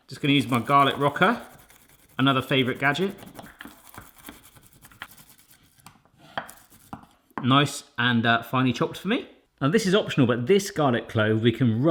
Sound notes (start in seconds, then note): 3.9 squishing